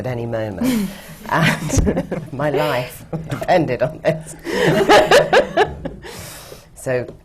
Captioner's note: laughter from the panel